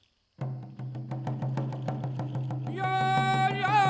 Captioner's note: drums pounding; rattles rattling; lead dancer chanting